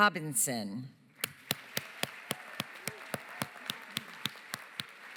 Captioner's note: cheering, applause